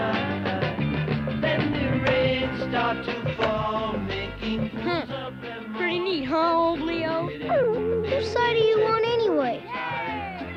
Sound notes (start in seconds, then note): 7.4 Arrow whining